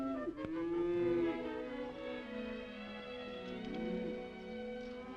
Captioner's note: gentle upbeat music; cows mooing; gentle upbeat music